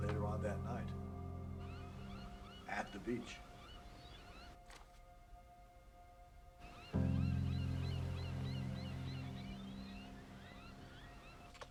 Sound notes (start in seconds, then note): 3.7 birds cawing